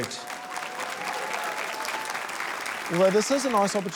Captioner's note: applause